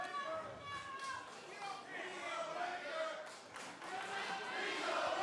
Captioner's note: crowd chatter; crowd cheering